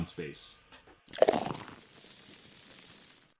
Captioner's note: beer fizzing